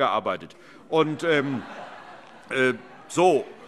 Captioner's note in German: Heiterkeit